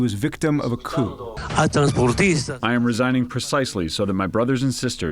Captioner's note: through translator